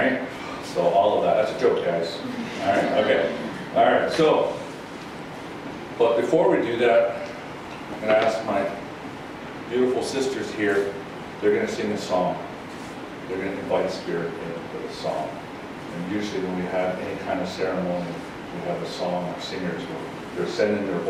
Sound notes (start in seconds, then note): 2.2 laughing